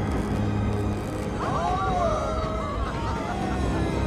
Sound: passengers cheering

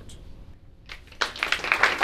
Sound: applause

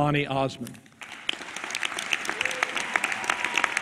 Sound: applause

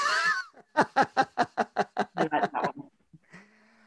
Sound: laughing

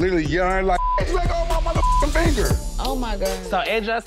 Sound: beep

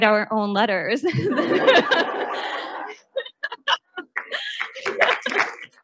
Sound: audience laughing; audience applauding

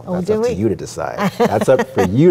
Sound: laughs

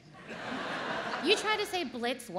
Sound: audience laughs

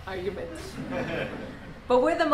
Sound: laughter

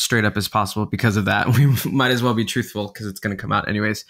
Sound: laughing

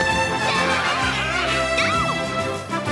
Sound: monsters shouting; Link grunts; Zelda screams

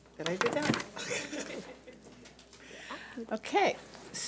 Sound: laughing

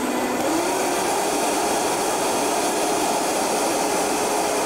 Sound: blender roar intensifies

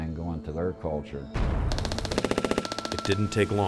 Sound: bomb booming; machine gun banging

